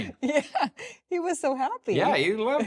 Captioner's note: laughs